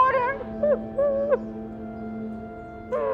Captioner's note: crying